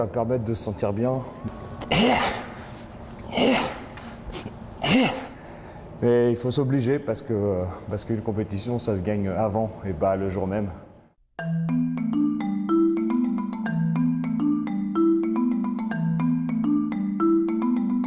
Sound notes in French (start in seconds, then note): 1.8 breathe